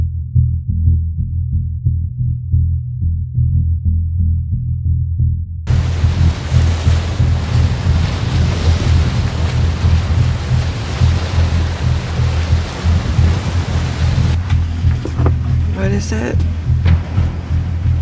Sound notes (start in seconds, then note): 5.6 suspenseful Music; 5.6 wind and loud waves crashing